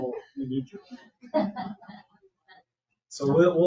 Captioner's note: people chuckle